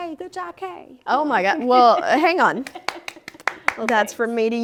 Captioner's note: applauds